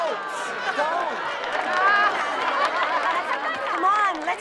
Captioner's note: laughter